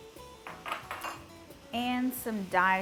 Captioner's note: dish clinks